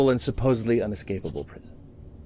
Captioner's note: none